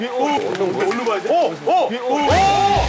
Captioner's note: the door opens